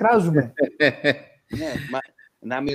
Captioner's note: γέλια